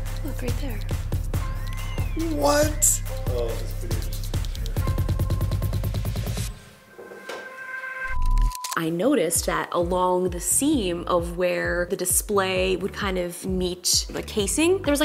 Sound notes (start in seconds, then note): 1.5 tense music; 5.4 suspenseful music; 6.9 signal beeps